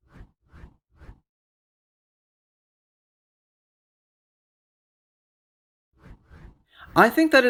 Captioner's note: transition swooshes